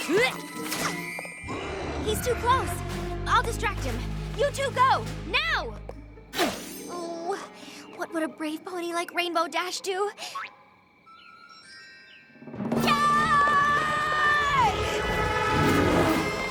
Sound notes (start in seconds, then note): 0.1 grunts; 1.5 growls; 9.6 poink!; 14.5 roars